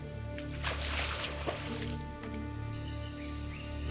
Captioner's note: tense, eerie music; birds chirping